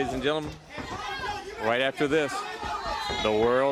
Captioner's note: crowd chatter